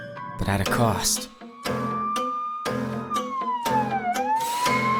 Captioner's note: sirens blaring